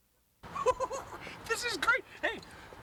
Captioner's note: chuckles